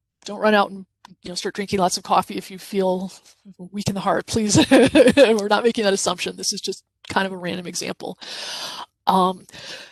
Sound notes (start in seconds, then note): 4.6 chuckles